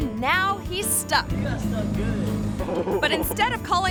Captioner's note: person laughs